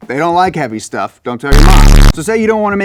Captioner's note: audio distorts